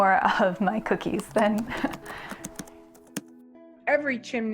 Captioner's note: keyboard clattering